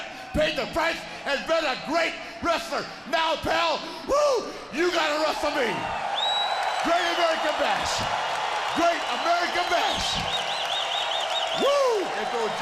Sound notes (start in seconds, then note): 8.0 crowd cheering